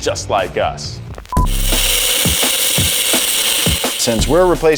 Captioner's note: grinder buzzes; upbeat music